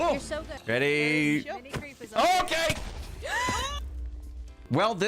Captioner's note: creeper explodes